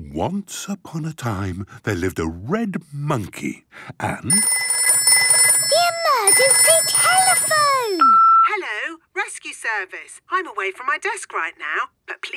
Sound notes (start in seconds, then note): 4.3 phone ringing; 8.2 answering machine